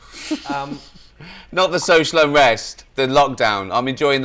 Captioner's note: laughs